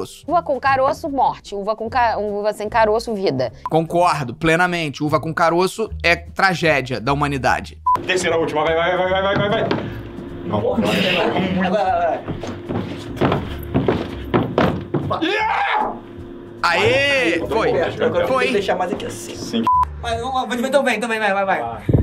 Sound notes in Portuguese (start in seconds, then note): 7.8 som de bipe; 12.2 som de pulos; 19.5 som de bipe